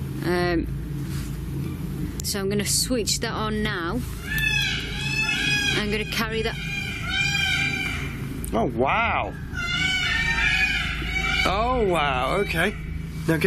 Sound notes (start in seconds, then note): 4.2 peacocks squawking; 8.7 peacocks screaming